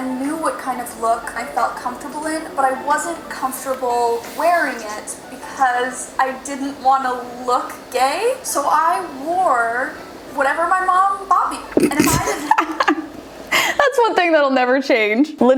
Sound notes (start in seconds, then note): 11.9 laughs